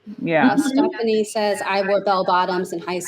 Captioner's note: laughs